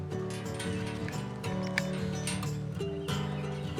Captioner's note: fence jangles